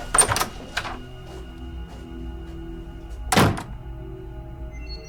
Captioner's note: door opens, closes